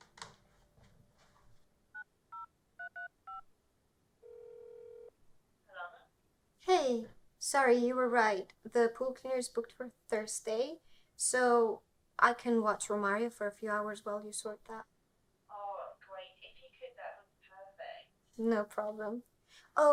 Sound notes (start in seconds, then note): 2.8 phone dial beeping; 4.2 dial tone buzzing